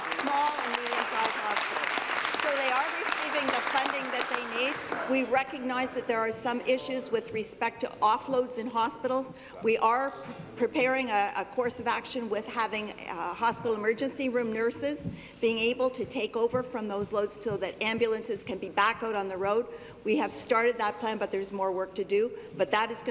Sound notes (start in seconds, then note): 4.4 applause